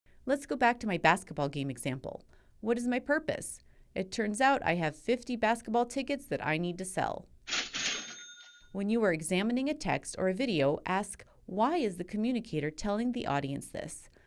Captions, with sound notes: Let’s go back to my basketball game example. What is my purpose? It turns out I have 50 basketball tickets that I need to sell [antique cash register bell cha-chings]. When you are examining a text or video, ask, why is the communicator telling the audience this?